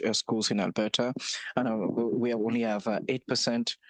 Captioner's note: speaking French